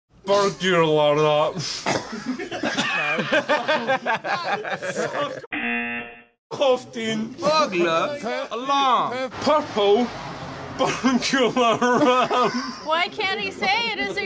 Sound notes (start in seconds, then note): 2.0 laughs; 5.5 buzzer; 6.2 in "English" accent